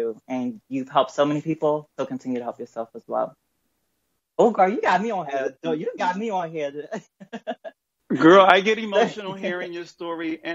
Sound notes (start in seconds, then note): 6.8 chuckles